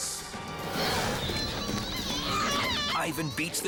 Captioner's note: screaming